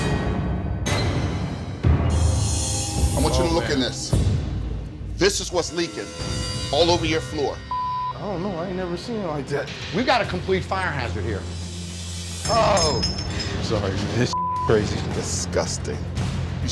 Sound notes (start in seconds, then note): 0.1 dramatic music; 7.7 beep; 14.3 beep